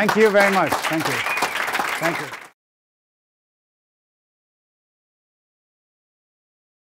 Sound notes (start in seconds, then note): 1.7 audience applauds